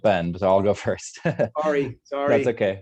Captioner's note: chuckles